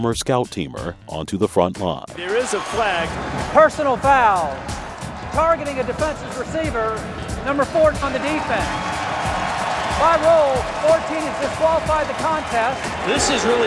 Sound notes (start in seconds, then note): 9.2 shouts game language; 11.3 crowd shouts and boos